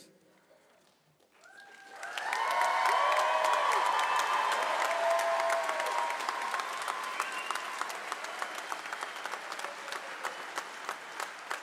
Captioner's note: applause